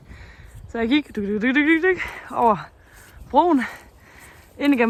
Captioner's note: sounds of walking